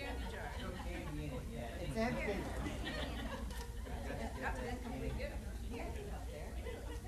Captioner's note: chatter